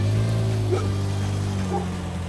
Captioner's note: bark!